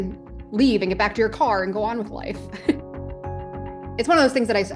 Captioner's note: laughs